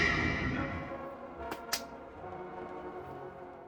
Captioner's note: plap plap